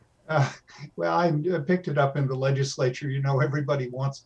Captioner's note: laughs